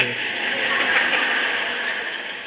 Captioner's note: laughter